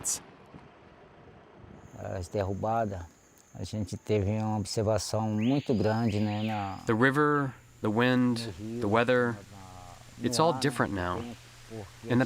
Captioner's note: through translator